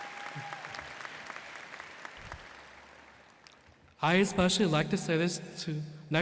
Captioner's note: applause